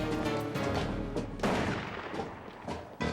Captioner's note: gun fires